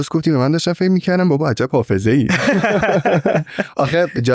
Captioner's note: laughs